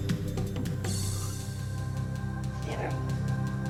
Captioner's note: yelling